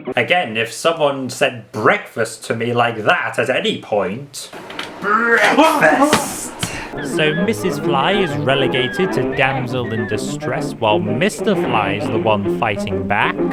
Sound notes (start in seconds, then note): 4.9 screams in terror